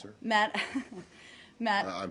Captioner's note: laughter